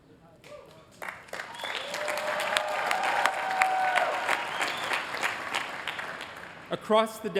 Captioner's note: applause